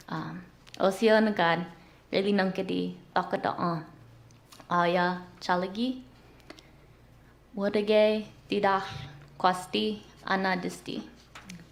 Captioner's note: non-english speech